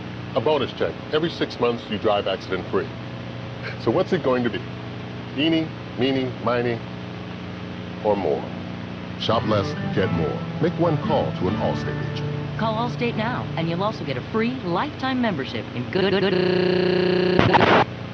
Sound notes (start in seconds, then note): 3.6 inhales; 15.9 FEMALE COMMERCIAL NARRATOR, stuttering due to signal intrusion